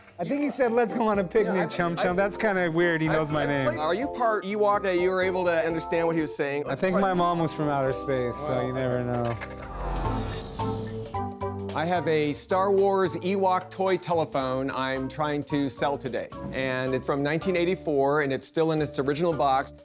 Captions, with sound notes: - I think he said, "let's go on a picnic, Chum Chum." That's kind of weird. He knows my name. - Are you part Ewok that you were able to understand what he was saying? - I think my mom was from outer space... - Well, okay. - So you never know. [sci-fi buzz] - I have a "Star Wars" Ewok toy telephone I'm trying to sell today, and it's from 1984, and it's still in its original box.